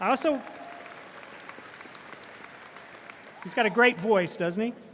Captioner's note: audience applauding